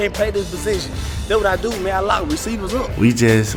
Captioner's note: grunts